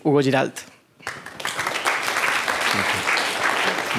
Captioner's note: applause